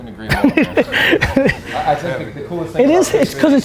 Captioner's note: laughter